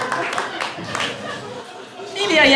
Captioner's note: applause